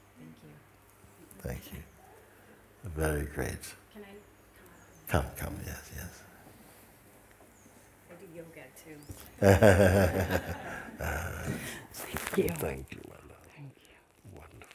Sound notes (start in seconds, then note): 9.4 laughter